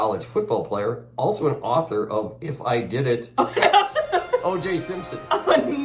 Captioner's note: laughter; sport music